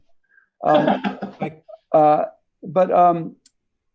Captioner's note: laughing